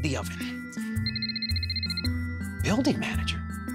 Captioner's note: phone ringing